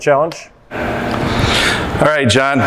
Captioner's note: machine noise